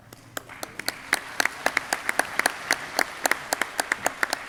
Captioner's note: audience clapping